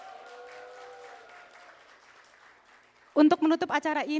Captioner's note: applause